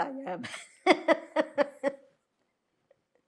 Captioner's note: laughing